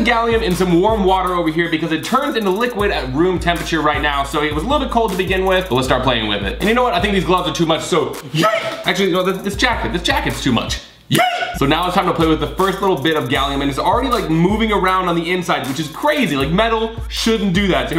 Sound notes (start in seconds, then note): 8.3 yells; 11.0 yells